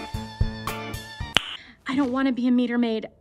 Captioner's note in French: smack